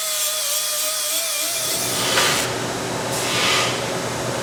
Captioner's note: machine running